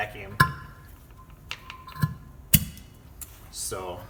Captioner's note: gurgling, sucking noise